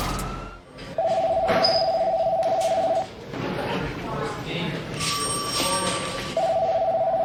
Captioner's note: phones ringing